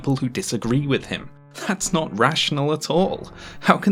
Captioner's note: scoffing